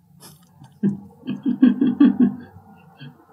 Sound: laugh

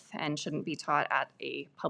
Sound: none

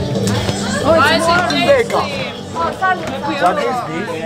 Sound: cheers

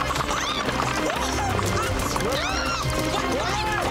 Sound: shouting

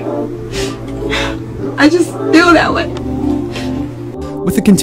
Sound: sniffles

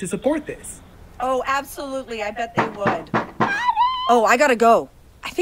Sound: knock knock knock

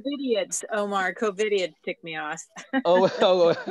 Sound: laughs

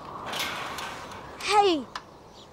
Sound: ladder creaks

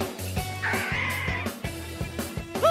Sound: Metroid cry

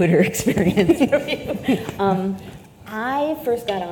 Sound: both laugh

